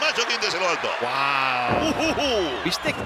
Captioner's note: laugh